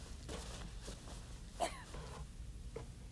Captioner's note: cough